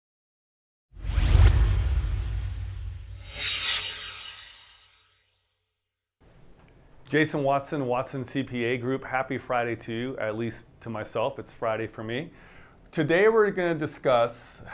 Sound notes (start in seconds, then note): 1.0 swoosh